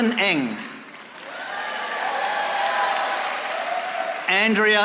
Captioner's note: audience applauding